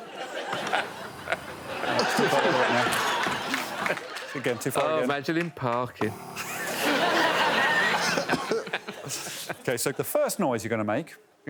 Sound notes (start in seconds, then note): 3.5 overlapping chatter; 8.6 all laughing